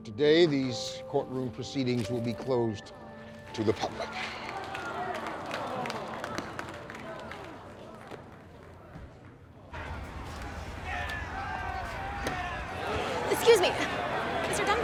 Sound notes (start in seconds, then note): 3.8 crowd mutters dismay; 9.7 disgruntled crowd shouting